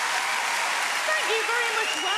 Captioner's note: audience cheering and applauding